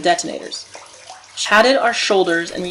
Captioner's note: sounds of steps on concrete and flowing water